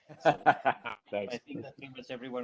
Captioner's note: laughs